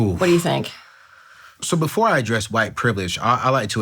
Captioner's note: sighs